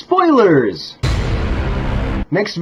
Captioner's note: duuuuuuuuuunnn